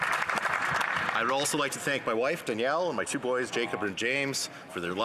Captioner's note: some Applause